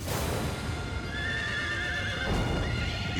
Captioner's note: horses neighing